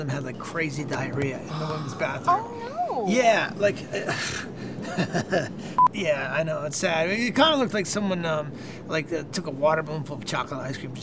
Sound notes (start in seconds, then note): 4.7 chuckling